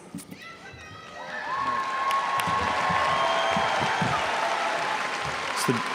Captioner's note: audience cheers and applauds